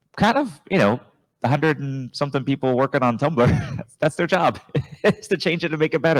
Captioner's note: laughs; chuckles